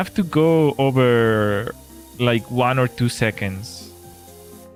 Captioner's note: none